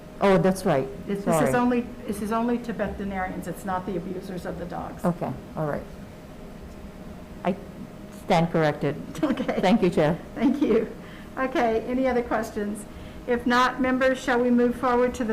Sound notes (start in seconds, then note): 9.1 chuckles